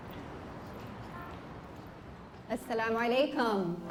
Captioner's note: non-english speech